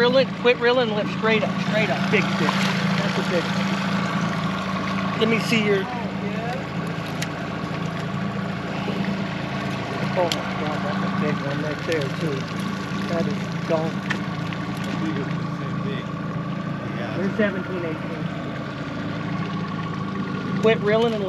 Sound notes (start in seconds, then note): 0.0 boat engine idling; 4.8 fish splashing